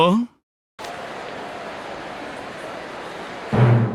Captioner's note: crowd buzzing